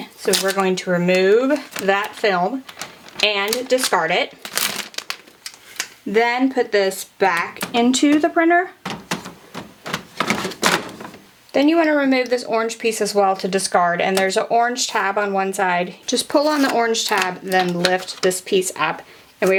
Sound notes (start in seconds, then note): 4.4 packaging crackling; 8.8 cartridge clattering